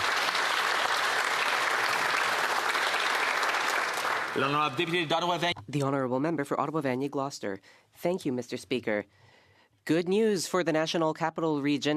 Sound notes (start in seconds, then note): 5.8 applause